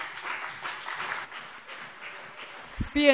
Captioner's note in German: Beifall CDU und BÜNDNIS 90/DIE GRÜNEN